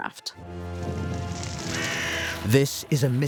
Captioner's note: sound of flames